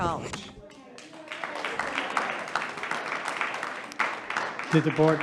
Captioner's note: audience applauding